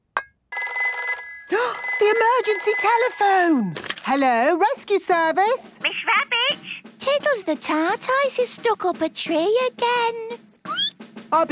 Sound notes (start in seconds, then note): 1.0 phone ringing, gasp; 10.5 squeaking